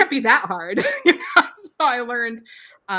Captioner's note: laughs